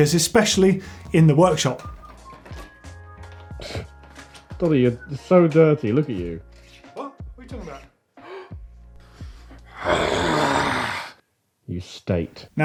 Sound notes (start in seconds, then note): 1.7 whistling; 9.7 angry growl